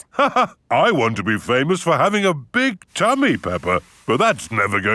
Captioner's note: laughs